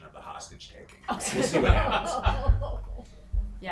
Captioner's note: everyone laughing